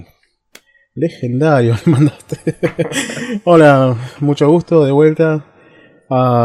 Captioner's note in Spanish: risas